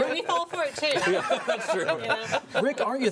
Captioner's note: all laughing